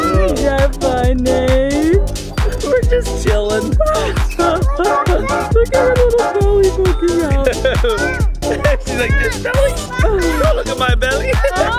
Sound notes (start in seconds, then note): 3.5 chuckles; 8.3 laughs